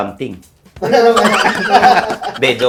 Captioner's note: everybody laughs